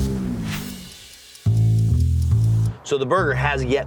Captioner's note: grill sizzling; suspenseful music; timer ticking